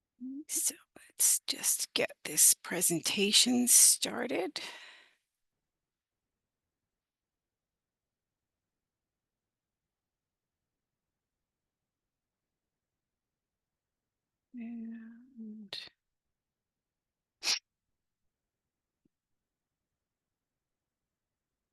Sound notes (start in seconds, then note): 6.5 silence